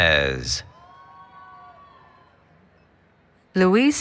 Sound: applause, Cheering

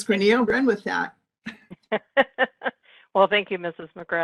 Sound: laughing

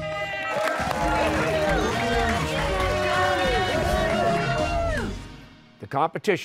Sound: cheers and applause

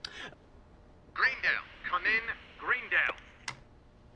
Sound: over intercom

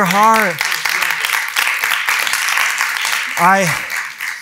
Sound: applause

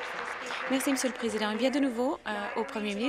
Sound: applause

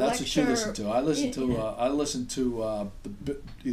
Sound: voiceover

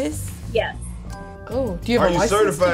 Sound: ding

